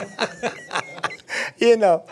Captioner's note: laughing